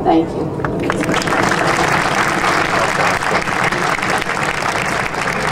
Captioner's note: audience applauding